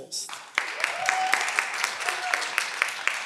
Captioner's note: cheering